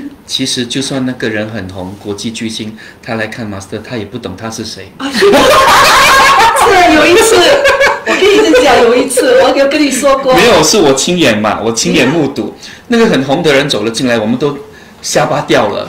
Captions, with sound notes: Even though, a famous person were to look for Master I still tell you put on Partisi. *Laughter* Did I tell you this before? The famous person came in to your shop. We were all awe strucked.